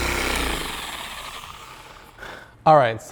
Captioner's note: polisher motor stopping